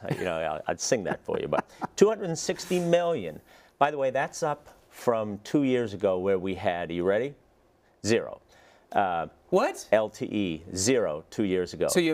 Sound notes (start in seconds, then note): 1.0 laugh